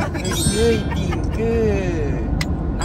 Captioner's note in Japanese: 効果音 キランッ✨キランッ✨キランッ✨